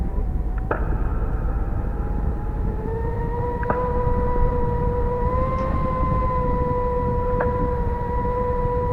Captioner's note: wind howling